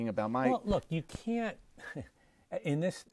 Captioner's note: laugh